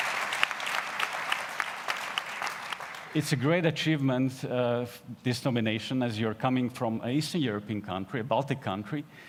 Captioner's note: applause